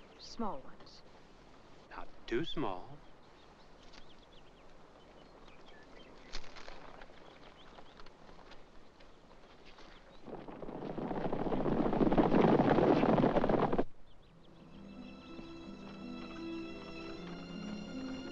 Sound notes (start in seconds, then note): 4.1 birds singing; 10.2 hooves pounding; 14.3 soft music